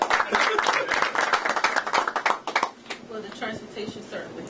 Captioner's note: laughter; applause